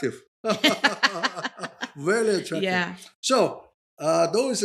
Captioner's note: both laughing